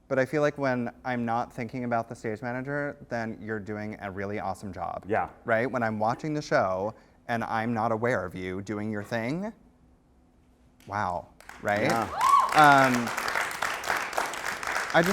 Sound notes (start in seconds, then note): 5.1 voiceover; 11.4 applause